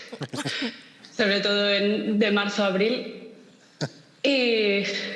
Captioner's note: laughter